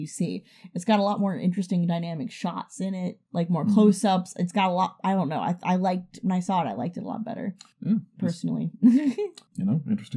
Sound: stammers

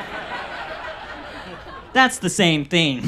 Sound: audience laughs

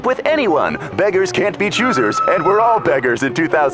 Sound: shrieks

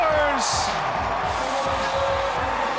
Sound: crowd applause

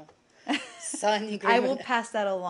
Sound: laughter

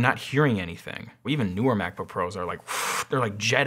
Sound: blowing

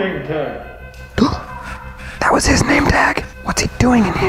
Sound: gasps

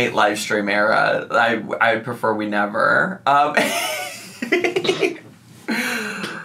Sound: laughs

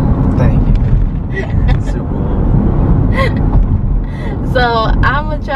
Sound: laughs

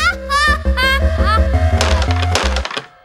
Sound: laughs

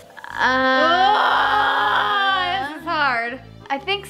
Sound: both groaning playfully

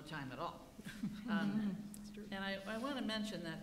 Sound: laughing

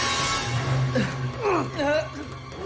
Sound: grunting

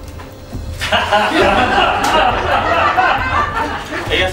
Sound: laughs

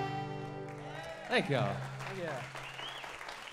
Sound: applause

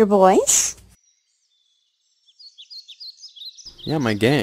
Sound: birds

